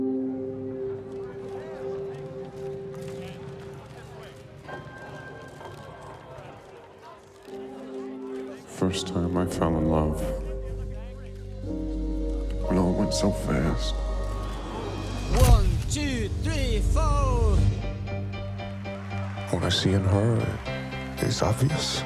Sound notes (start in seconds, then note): 2.9 faint, indistinct chatter; 10.9 music builds